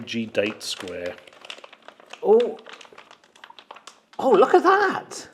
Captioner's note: packet crackles